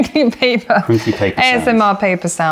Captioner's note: laughter